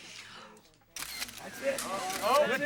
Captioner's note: cameras shutter clicks